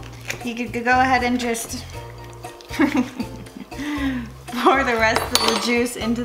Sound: laughs

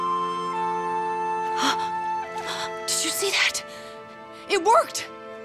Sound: gasping

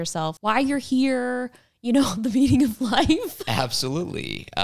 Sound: laughs

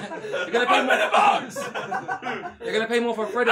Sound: all laughing; shouting

